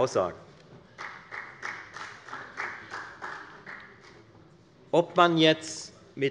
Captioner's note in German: Beifall bei der FDP